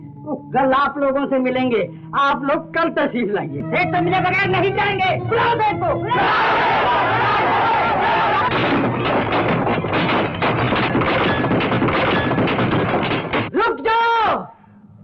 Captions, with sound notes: Tomorrow he will meet you so all of you come tomorrow. We will not move from here unless we meet him. Call the owner. - Call the owner. (Glass shatters) Stop it.